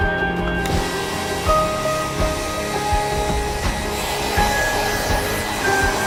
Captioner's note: hum from the hair driers